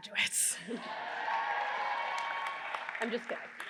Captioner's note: audience cheering and applause